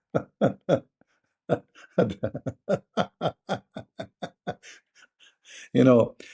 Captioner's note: Ketawa